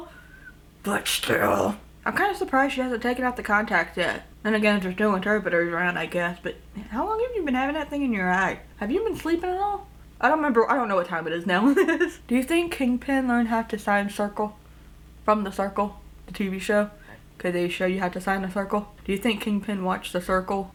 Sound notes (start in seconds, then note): 1.2 growls; 11.8 laughs